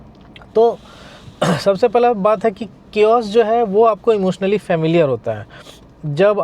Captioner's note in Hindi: गला साफ़ करने की आवाज़